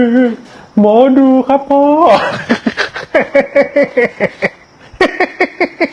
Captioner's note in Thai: เสียงหัวเราะ